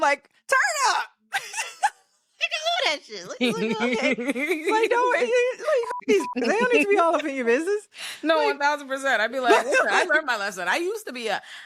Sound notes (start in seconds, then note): 1.0 laughing; 5.8 beep